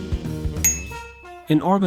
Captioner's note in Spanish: Sonido de Campana